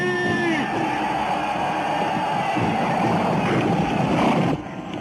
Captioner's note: men shouting